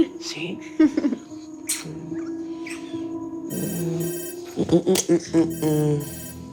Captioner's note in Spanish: Suena el celular